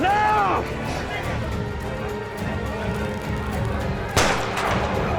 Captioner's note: crowd clamoring; gunshot